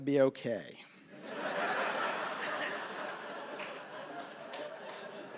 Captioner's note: laughter